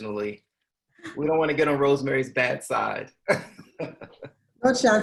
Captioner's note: laughs